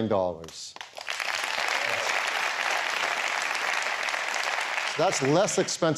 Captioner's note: applause